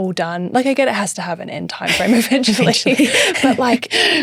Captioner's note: laughing